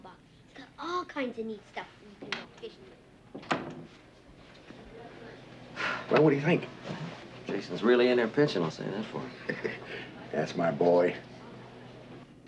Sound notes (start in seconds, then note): 5.7 sighs; 9.0 chuckles